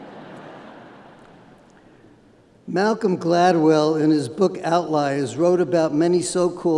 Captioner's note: laughter